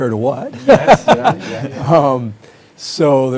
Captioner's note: everyone laughing